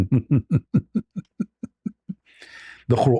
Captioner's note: ketawa